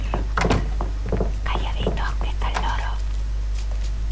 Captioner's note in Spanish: susurrando